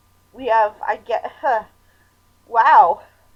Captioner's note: sighs